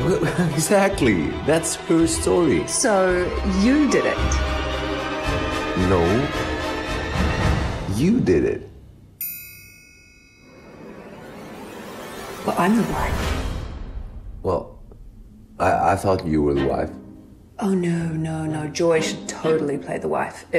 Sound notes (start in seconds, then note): 0.2 laughs; 9.2 bell chimes